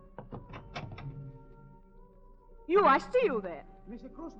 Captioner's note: knocking on door